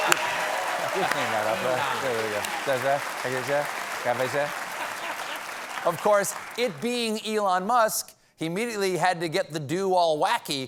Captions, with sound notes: WE'LL CLEAN THAT UP. ( APPLAUSE ) OF COURSE, IT BEING ELON MUSK, HE IMMEDIATELY HAD TO GET THE DOO ALL WACKY, TWEETING, "I